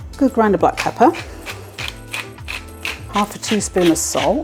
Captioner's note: pepper mill grinding